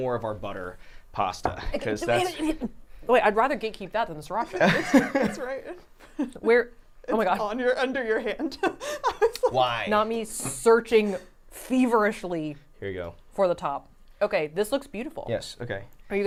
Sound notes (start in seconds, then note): 4.5 laughing; 7.9 laughing